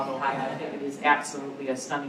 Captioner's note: laughter